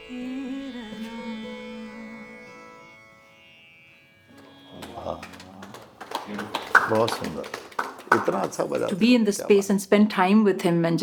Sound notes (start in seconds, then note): 4.4 clapping